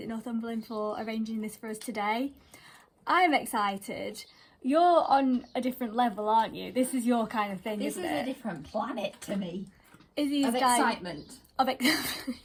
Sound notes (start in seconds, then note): 11.8 laughter